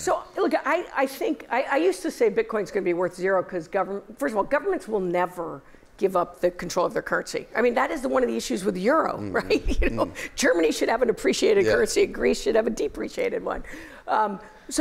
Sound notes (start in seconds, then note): 9.6 laughter